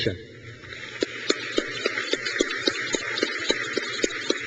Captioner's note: crowd claps